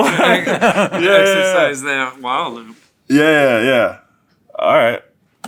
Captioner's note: laugh